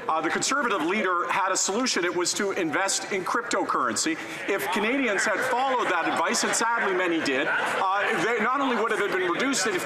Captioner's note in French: voix de l'interprète